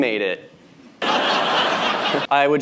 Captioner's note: laughter